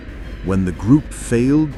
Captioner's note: low, whispering voice